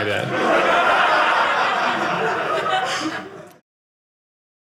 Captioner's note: audience laughing